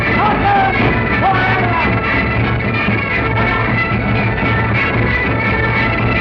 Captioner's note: shouting orders